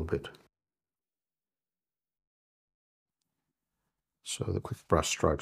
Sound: silence

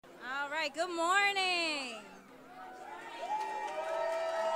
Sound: applause

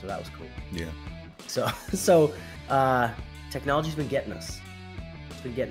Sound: laugh

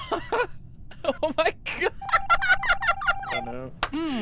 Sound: laughter; laughing

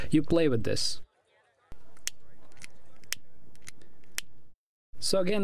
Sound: lighter flicking

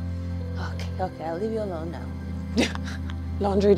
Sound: laughs

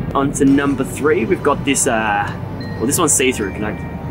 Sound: none

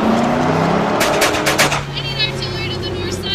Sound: guns firing

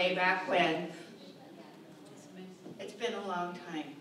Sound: audience chatting

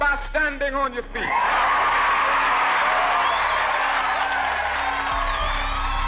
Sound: crowd cheering and applauding

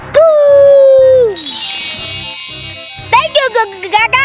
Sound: magic wand

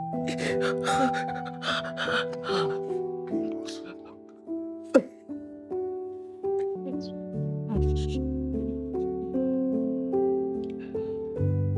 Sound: crying

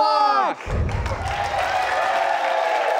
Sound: audience cheers; clapping

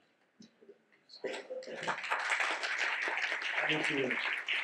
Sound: audience clapping

